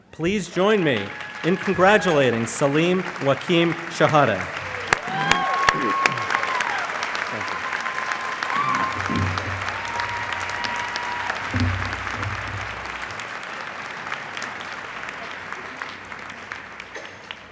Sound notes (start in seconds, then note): 5.1 applause